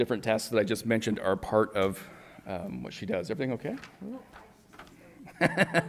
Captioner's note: laughs